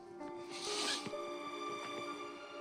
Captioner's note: sniffles